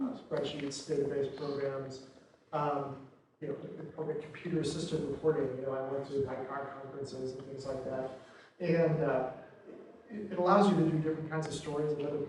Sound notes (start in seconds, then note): 6.1 murmuring